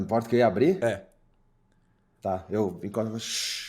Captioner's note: shhhhh